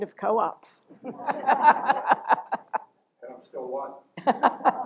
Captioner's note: laughter